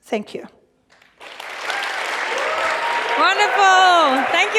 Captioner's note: cheers and applause